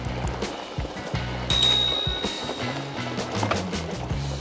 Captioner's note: bike bell dings